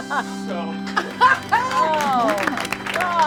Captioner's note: clapping; sad organ music